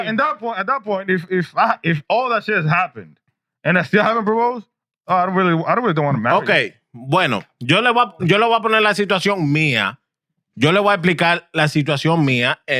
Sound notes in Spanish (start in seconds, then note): 8.9 Hablando en idioma extranjero